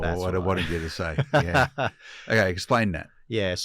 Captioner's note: son laughs